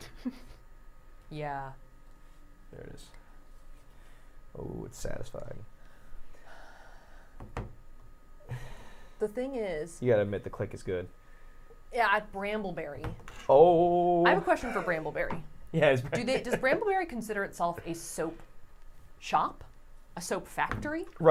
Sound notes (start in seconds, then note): 0.0 giggles; 7.5 cutter thuds